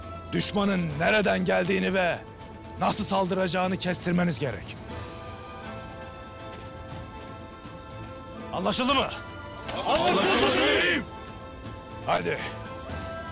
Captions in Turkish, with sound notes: ...düşmanın nereden geldiğini ve... ...nasıl saldıracağını kestirmeniz gerek. Anlaşıldı mı? (Hep bir ağızdan) Anlaşıldı beyim! Hadi.